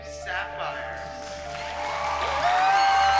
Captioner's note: cheering